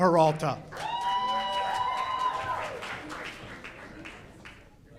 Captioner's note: audience cheers